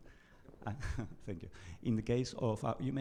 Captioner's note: chuckles